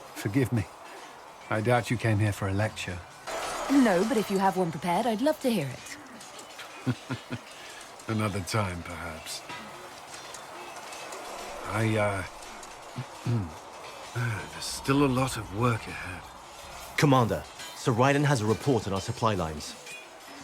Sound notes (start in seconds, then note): 13.3 ahem